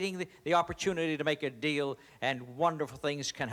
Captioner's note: none